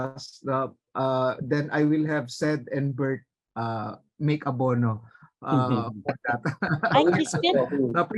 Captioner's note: jokingly